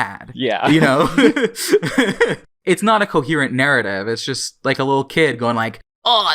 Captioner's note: both laugh